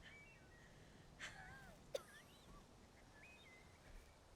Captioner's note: coughs